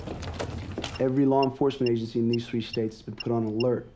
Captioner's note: beeping